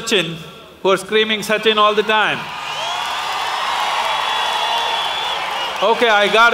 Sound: applause; People shouting slogans about Sachin

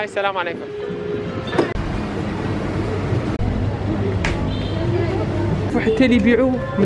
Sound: engine sound

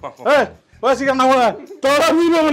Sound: indistinct Chatter

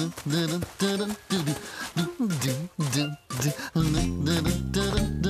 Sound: humming

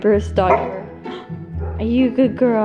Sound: dog barking

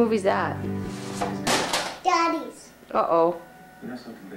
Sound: crash of the tape hitting the ground

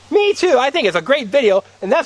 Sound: voiceover

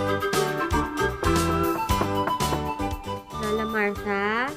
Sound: knocks on door

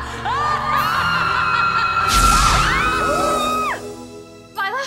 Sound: both screaming

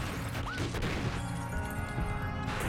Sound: gunfire

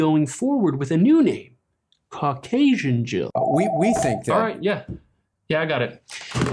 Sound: phone rings

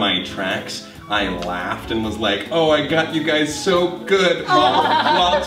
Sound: laughter

